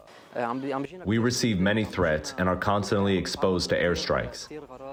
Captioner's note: through translator